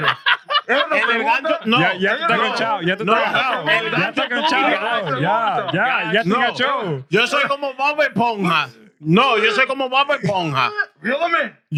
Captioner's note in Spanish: Riendo; Hablando en idioma extranjero